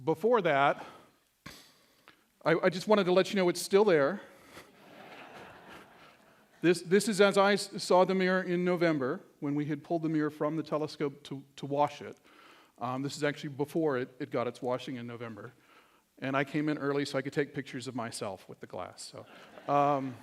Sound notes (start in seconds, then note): 4.7 laughter